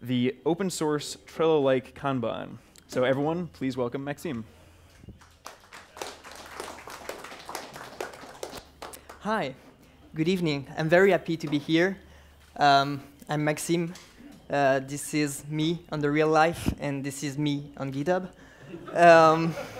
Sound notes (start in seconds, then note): 5.1 clapping